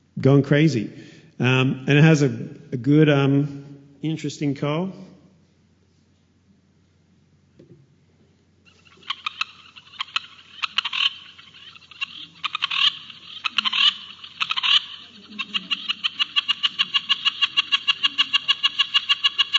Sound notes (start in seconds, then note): 8.6 Sound of All Night Party Frog calls